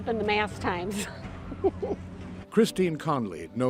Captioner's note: chuckles